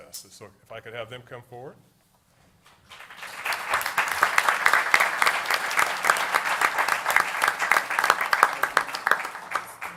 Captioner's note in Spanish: Aplauso